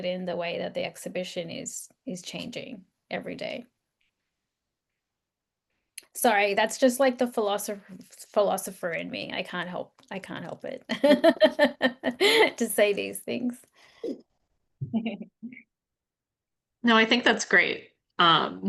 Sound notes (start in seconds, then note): 11.0 laughs